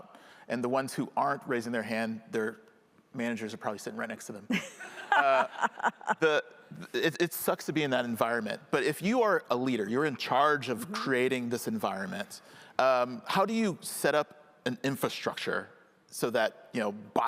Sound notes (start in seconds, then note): 4.8 audience laughing